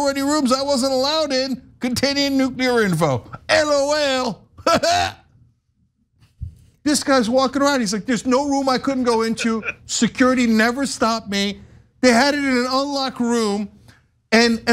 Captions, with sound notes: I wasn't allowed in continuing nuclear info LOL. [LAUGH] This guy's walking around he's like there's no room. I couldn't go into security. Never stopped me. They had it in an unlocked room and and by the way,